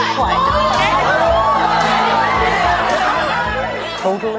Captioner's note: audience hollering